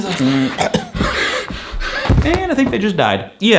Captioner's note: coughs; breathing heavily; body thuds on the floor